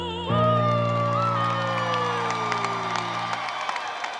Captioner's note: attendees applauding